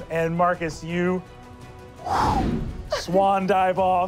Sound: wooshing

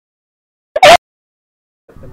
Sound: unknown Character Screeching

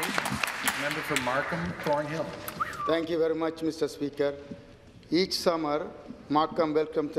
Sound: some applause

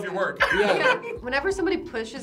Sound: laughs

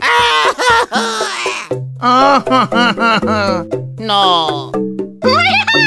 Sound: crying

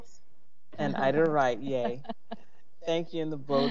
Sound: members laughing

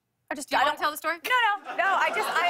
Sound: laughter

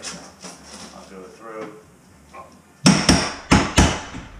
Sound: hammers

